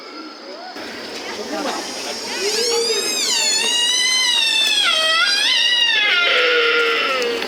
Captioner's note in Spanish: ciervo macho llamando